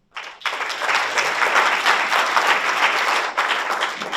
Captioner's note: audience applauds